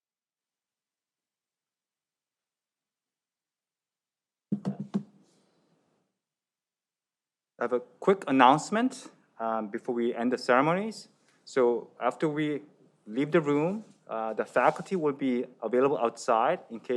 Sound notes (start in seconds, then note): none